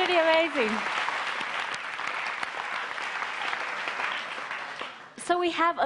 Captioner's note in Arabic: تصفيق